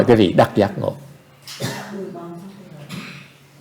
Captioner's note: background chattering